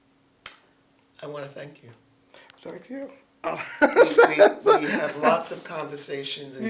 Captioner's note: laughs